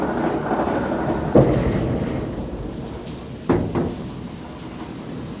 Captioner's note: elevator hums softly